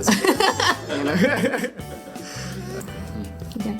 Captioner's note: laughing